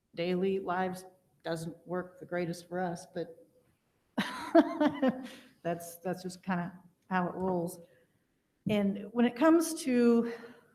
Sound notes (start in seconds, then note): 4.2 laughing